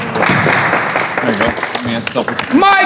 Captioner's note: participants cheering